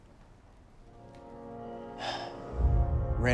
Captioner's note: sighs